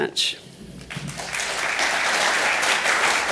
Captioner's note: applause